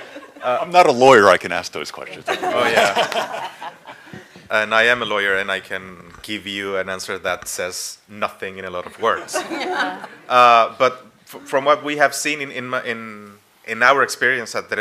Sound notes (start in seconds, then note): 2.2 laughter